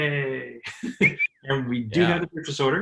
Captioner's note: laughs